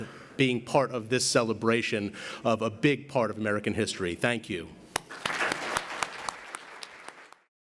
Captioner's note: applause